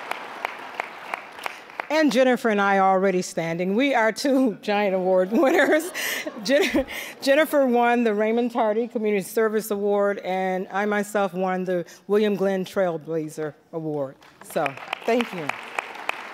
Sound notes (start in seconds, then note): 0.0 applause; 5.3 all laughing